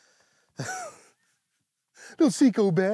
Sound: laughs

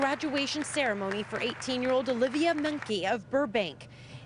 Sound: applause

